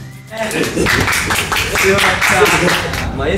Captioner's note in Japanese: スタッフからの拍手大喝采